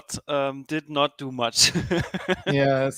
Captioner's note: laughs